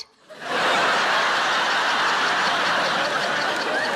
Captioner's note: audience laughing